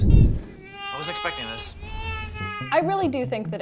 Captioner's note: baby crying